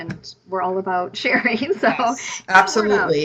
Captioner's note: laughs